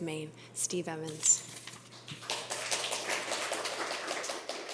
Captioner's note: applause